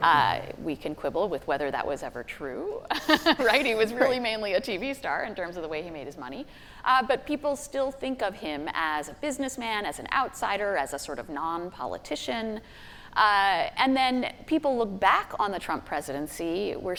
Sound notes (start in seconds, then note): 3.0 laughing